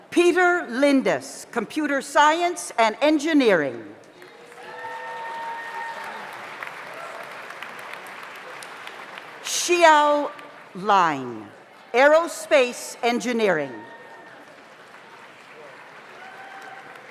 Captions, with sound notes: Peter Lindas, Computer Science and Engineering. (audience applauds) (audience cheers) Shio Line, Aerospace Engineering. (audience applauds)